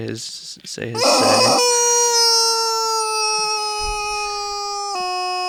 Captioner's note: toy chicken squeaks